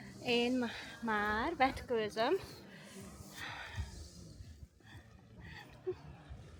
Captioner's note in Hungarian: sóhajtás